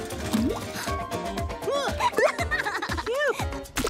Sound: gasps; laughing

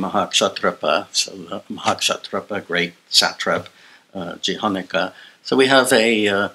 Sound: non-english

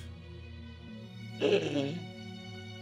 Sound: sighs

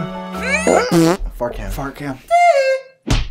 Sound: fart

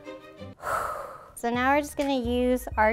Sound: exhales

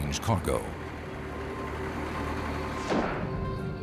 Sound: vehicle rumbling

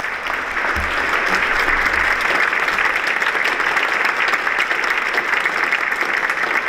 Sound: applause

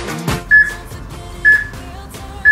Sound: peep

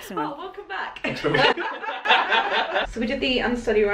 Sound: laughter

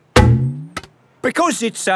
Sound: thunks

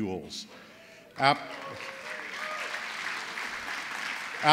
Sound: applause

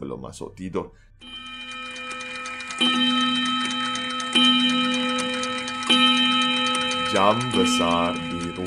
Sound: clock chiming

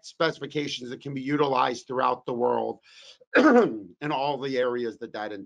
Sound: coughs

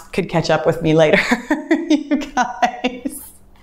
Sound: laughs

